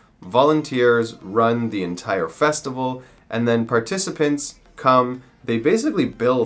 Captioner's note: none